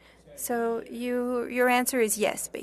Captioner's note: speaking French